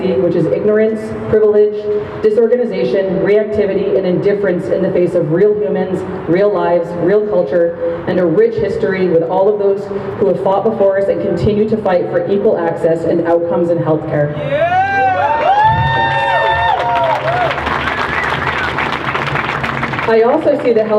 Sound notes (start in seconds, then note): 14.4 crowd cheers